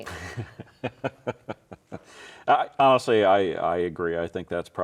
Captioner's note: laughs